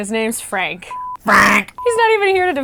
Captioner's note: honking